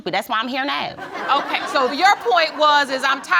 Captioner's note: audience laughing